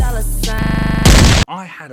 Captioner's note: music Stuttering; explosion